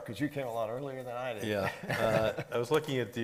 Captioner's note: laughing